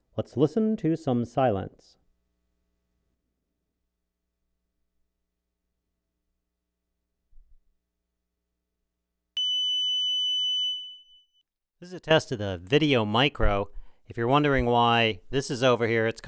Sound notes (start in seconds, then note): 9.5 tone generator beeping